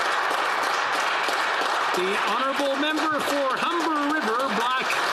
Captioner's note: some Applause